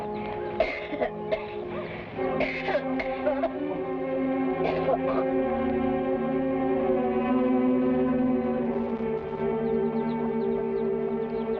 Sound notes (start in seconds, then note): 0.7 woman coughing; 5.6 somber music